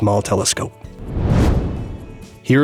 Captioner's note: whoosh